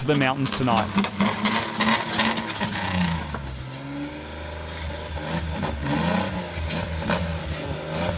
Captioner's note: engine revving